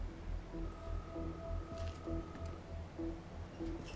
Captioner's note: line ringing